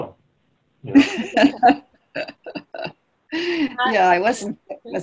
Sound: laughing

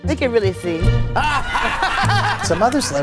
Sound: audience laughing

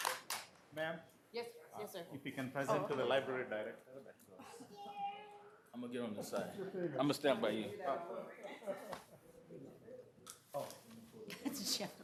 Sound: applause

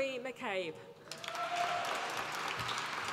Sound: applause

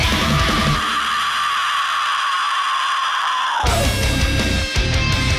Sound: screaming

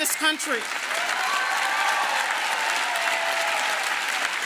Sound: applause

